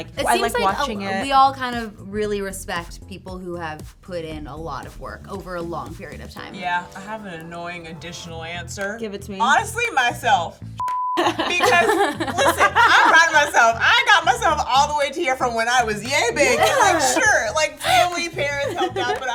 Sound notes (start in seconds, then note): 10.8 beep; 11.2 laugh; 17.8 laughs